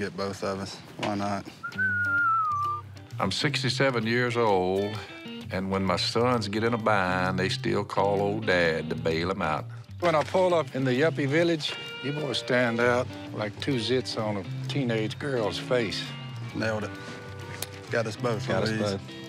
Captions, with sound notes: Why not? [whistling] I'm 67 years old. And when my sons get in a bind, they still call old dad to bail them out. When I pull up in the yuppie village, you boys stand out like two zits on a teenage girls face. Nailed it. Got us both. Got us both.